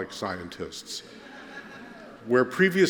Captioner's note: laughter